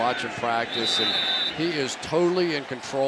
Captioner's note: whistle blows